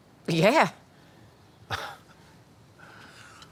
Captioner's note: scoffs